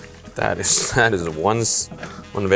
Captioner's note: pasta slurping